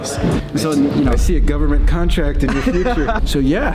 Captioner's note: laughs